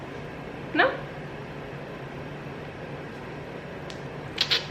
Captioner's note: clicks tongue